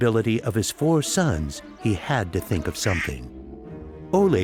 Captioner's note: quacks